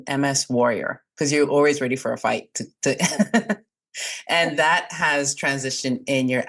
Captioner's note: laughs